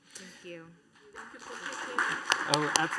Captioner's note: applause